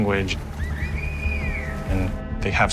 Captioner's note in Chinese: 口哨聲